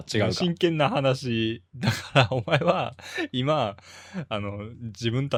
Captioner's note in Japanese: 笑い